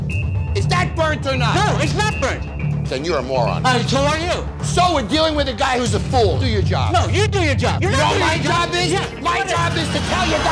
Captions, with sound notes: - Is that burnt or not? - No, it's not burnt. - Then you're a moron. - So are you. - So we're dealing with a guy who's a fool. Do your job. - No, you do your job. [shouting] - You know what my job is? - Yeah, what is it? - My job is to tell you they're burnt.